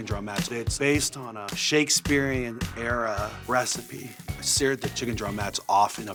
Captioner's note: none